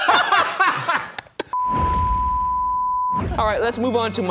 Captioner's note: laughing; logo beeping